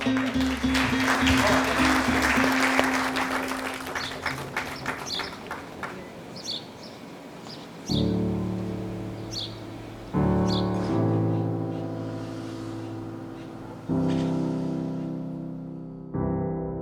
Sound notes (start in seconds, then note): 0.0 crowd claps; 4.5 birds chirp